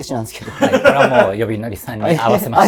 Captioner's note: laughing